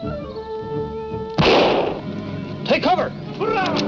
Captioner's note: gun roars